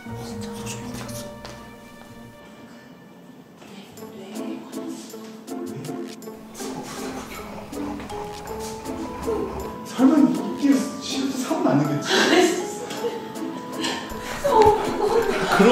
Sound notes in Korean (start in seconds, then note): 0.2 속삭이는 소리; 5.2 속삭이는 소리; 13.7 웃음